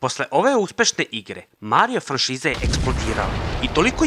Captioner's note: explosion